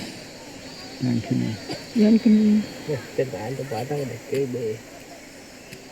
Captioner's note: speaking in foreign language